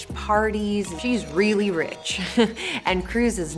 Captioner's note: laughs